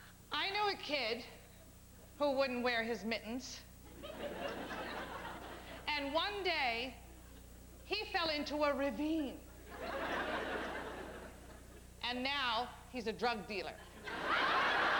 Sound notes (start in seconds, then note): 9.6 laughter